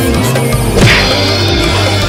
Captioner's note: smack!